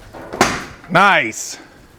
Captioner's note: pipe thwacks loudly